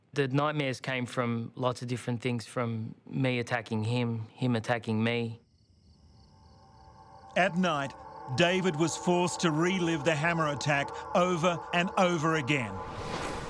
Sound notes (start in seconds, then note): 5.7 insects chirping